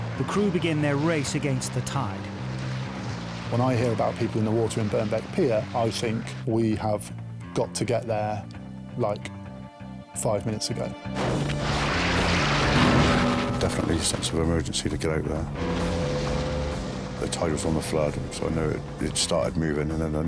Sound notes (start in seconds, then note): 11.3 bright music; 12.9 engine revving